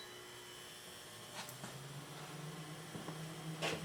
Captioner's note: motor fan starts